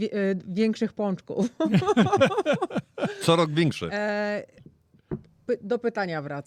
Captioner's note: śmiech